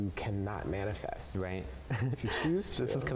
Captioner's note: chuckles